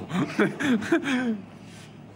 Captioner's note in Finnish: naurahdus